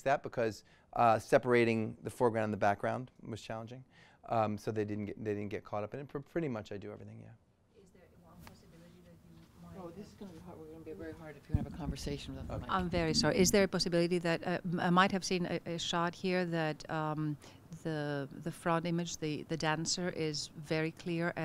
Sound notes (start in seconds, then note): 12.8 voiceover